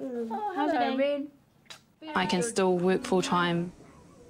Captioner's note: baby cries